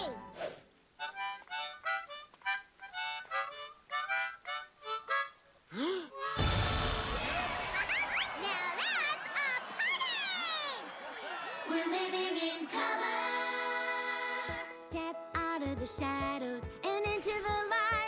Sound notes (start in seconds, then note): 1.0 playing harmonica; 5.7 inhales, continues playing